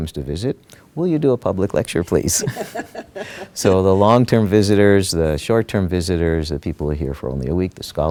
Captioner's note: laughter